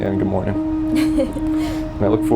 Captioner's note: laughing